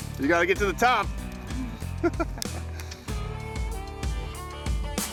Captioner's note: laughing